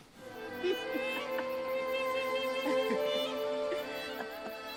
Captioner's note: Ara laughing